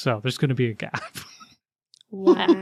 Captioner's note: laughs